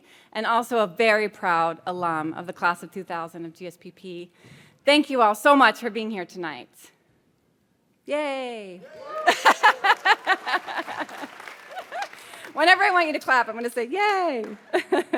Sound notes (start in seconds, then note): 8.8 audience cheers; 8.9 laughs